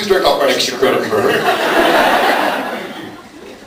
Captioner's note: laughs